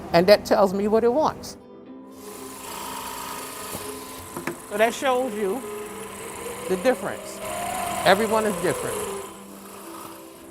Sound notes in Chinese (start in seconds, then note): 2.1 電鑽聲